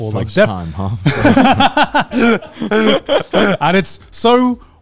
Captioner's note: laughs